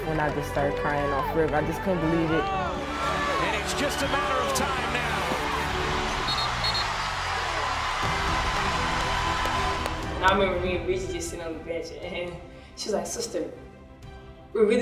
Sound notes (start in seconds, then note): 6.2 two whistles; 7.0 cheering